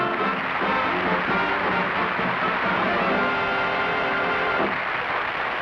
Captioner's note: applause